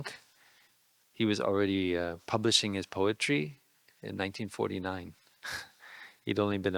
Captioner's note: laughing